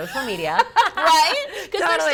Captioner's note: laughs